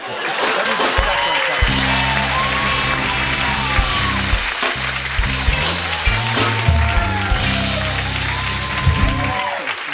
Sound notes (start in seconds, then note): 3.1 cheers and applause; 9.7 chuckling